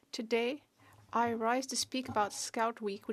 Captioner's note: speaking French